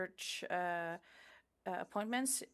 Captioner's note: speaking French